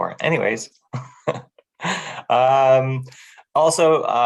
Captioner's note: laughing